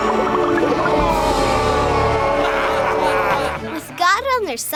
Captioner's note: yelling